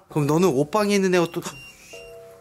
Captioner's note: beeping